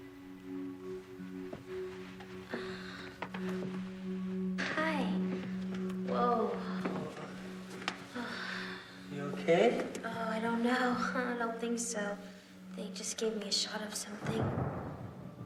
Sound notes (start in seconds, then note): 0.2 mysterious electronic music; 7.8 Marlee sighs